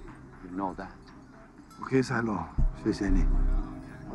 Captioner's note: Speaking Mandarin